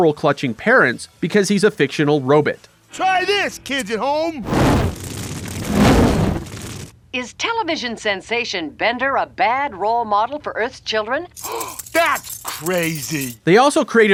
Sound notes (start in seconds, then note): 11.4 gasps